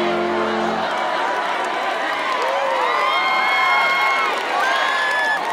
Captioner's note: applause